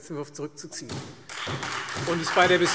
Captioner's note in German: Beifall Freie Demokraten, SPD und DIE LINKE